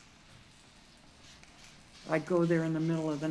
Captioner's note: welding torch buzzing